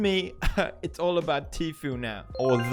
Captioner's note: cough/laugh